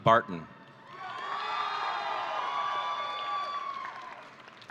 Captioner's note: audience cheering